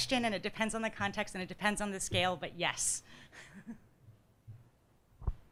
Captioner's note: laughs